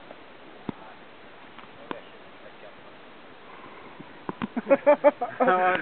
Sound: laughter

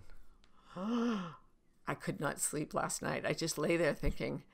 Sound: gasps

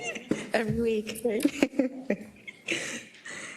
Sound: laugh

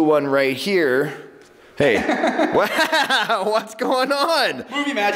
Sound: laughs

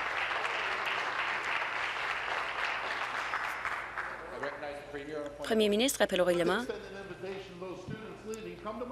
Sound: applause

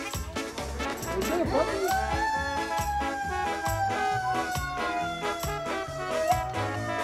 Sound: fire engine siren wailing

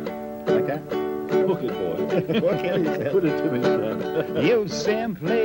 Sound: both laughing

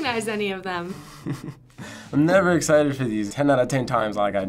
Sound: nervous chuckle

